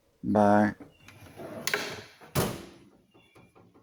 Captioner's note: drawer closing sound